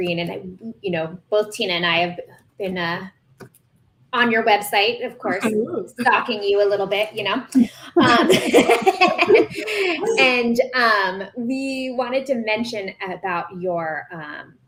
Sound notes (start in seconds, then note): 8.0 laughter